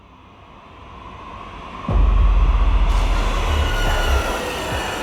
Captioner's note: spaceships whirring